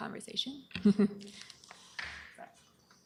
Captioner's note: chuckles